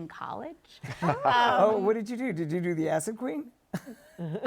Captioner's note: laughs